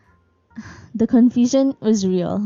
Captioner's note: sigh